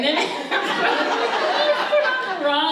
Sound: audience laughs

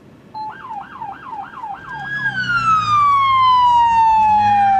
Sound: sirens wailing

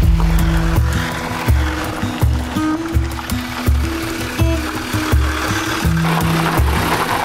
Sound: engine rumbling; gentle music

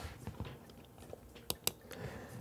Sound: typing

